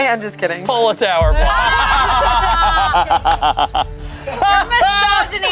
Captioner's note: group laughs